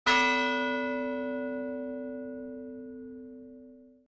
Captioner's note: bell ringing